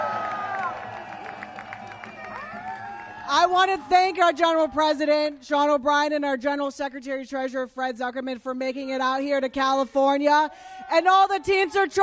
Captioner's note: applause